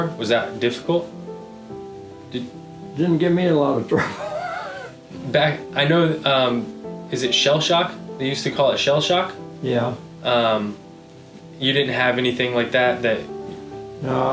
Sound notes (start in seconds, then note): 3.9 chuckling